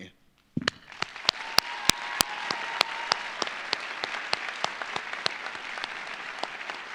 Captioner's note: audience applauding; audience cheering